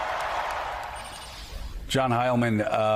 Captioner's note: applause